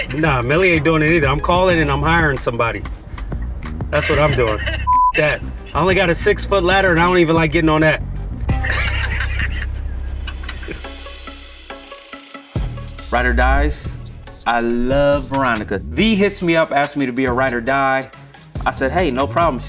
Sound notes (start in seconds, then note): 3.6 laughs; 4.8 beep; 8.5 both laugh; 11.0 chill music